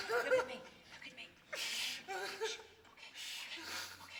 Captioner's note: Matty sobbing